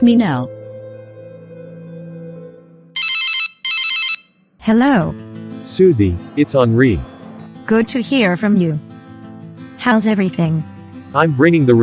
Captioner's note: cell phone rings